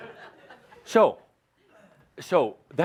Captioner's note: laughter